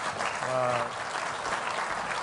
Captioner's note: applause